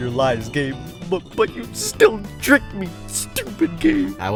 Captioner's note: in pouty voice